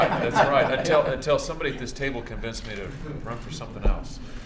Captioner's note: laughter